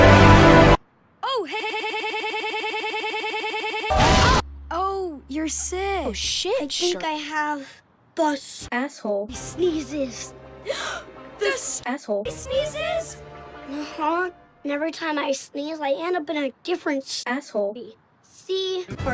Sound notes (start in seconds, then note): 10.7 g a s p